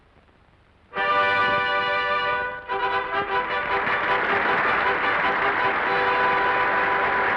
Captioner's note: triumphant music; audience applauding